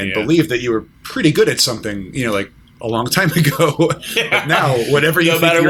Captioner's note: laughter